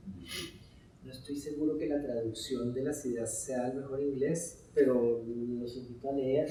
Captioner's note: speaking in Spanish